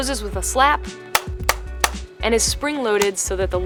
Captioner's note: case snapping